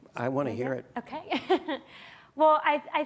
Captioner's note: laughs